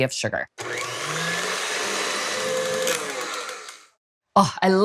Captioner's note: mixer whirring